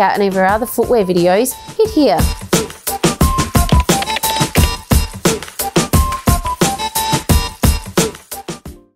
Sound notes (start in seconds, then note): 1.8 upbeat music; 3.4 keyboard keys clattering; 5.4 upbeat music continues